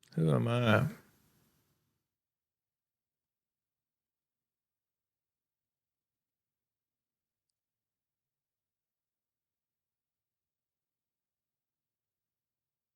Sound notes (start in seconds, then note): 1.1 silence